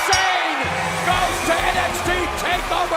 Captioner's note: bell ringing